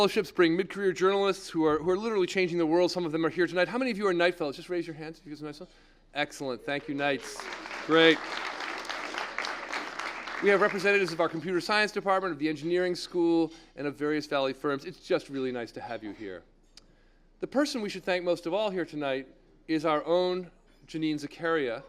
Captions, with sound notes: career journalists who are literally changing the world, some of them are here tonight. How many of you are night fellows? Just raise your hands. Excellent, thank you, nice, great >> [APPLAUSE] >> We have representatives of our computer science department of the engineering school in a various Valley firms. It's just really nice to have you here. The person we should thank most of all here tonight is our own Janine Zakaria.